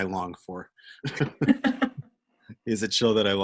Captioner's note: laughter